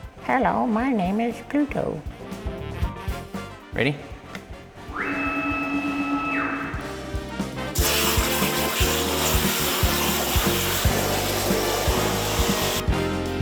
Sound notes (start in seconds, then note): 4.9 machine beeping; 6.8 sparks buzzing; 8.1 upbeat music